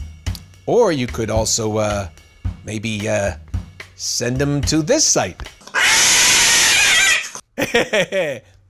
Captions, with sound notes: Or, you could also, uh...maybe, uh...send them to this site! (horrific caterwauling) (chuckles)